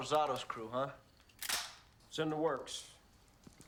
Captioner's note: guns clicking